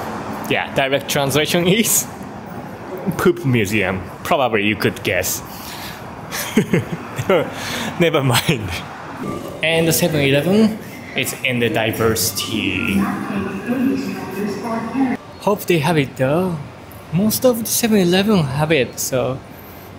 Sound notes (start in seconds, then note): 6.3 chuckles